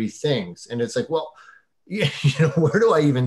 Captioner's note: laughing